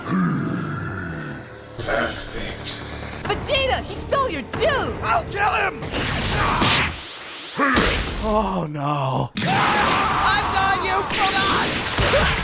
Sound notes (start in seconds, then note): 9.4 screaming